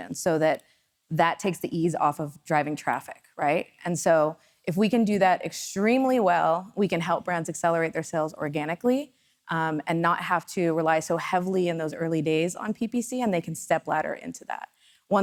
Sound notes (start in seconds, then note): none